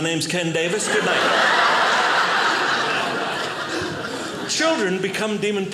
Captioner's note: audience laughing